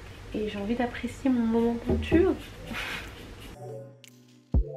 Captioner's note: laughs